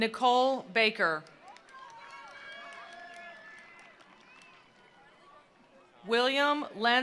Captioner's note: attendees applauding; attendees cheering